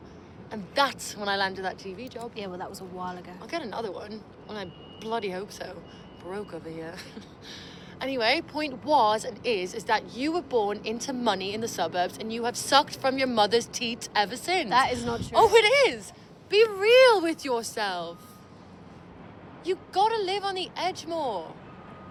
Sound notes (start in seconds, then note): 7.0 chuckles